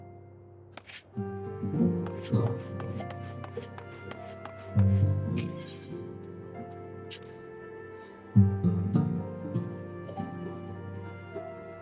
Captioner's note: footsteps